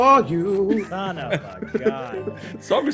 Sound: laugh

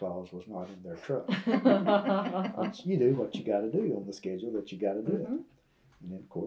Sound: laughter

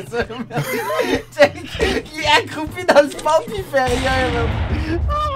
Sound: laughs

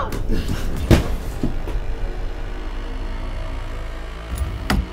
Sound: body hitting floor; Vanessa gasping; window shutting

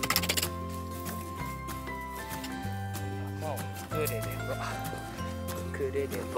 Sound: laughs

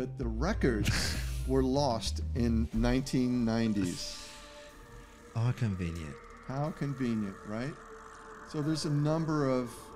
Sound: laughter

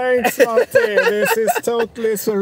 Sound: laughing

